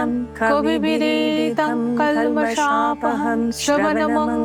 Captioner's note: chanting